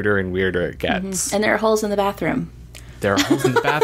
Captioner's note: laughs